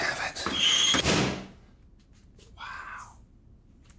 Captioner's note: oven door banging